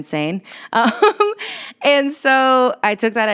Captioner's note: laughs